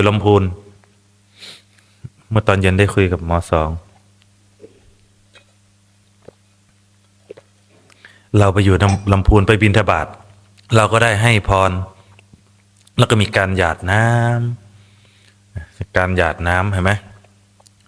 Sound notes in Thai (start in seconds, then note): 1.3 เสียงสูดหายใจ